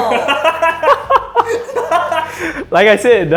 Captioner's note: laughter